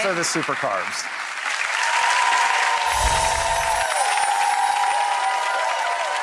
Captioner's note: crowd cheers and applauds